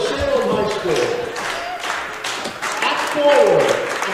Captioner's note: rhythmic clapping